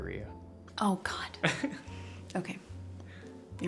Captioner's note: Jack laughs